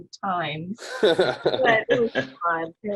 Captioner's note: laughing